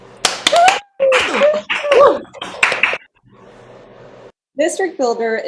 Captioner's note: applause